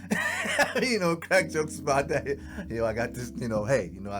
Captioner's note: laughs